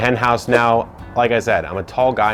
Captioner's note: whooshing